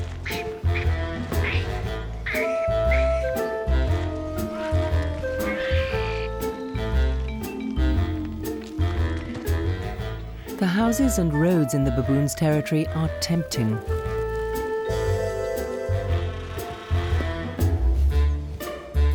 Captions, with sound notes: (baboons chattering) The houses and roads in the baboons' territory are tempting.